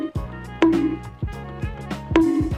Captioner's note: cartoon bonk; cartoon bonk